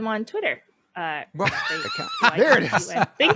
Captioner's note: laughter